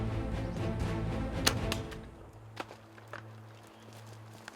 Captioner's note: arrow clicking